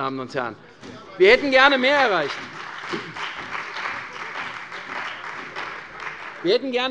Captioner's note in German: Beifall bei der CDU und dem BÜNDNIS 90/DIE GRÜNEN